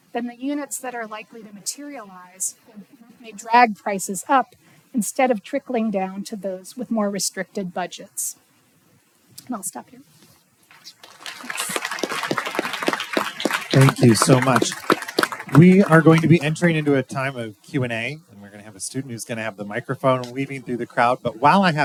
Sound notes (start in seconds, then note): 10.7 applause